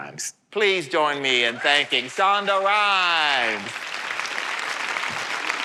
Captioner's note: applause